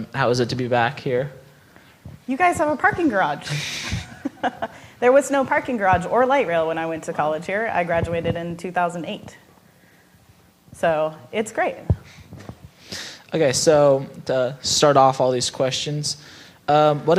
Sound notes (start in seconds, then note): 3.4 all laughing